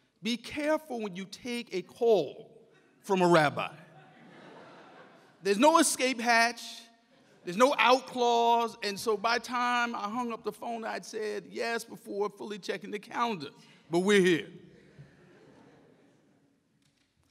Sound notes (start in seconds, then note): 3.9 audience laughs; 14.7 audience laughs